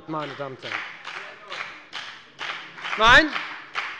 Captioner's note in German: Beifall bei der FDP